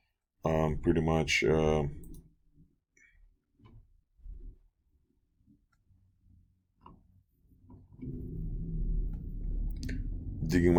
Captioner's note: clicking Sounds